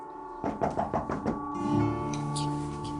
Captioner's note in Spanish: Toques en la puerta